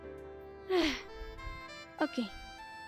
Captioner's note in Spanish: suspiro